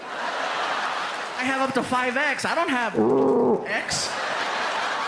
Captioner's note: growls